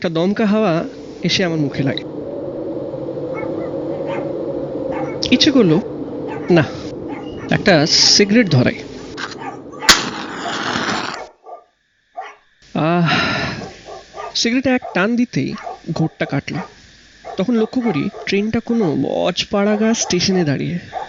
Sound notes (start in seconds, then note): 3.2 howling breeze; 4.8 dogs are barking; 9.8 match strikes